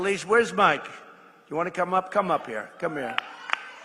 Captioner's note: applause